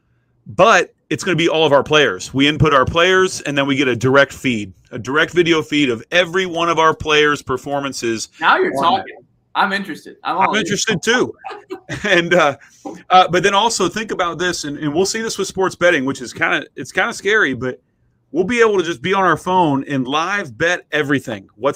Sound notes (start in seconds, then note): 11.2 laughter